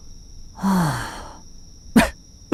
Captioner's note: sigh; laughs